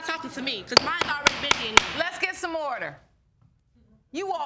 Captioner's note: gavel pounding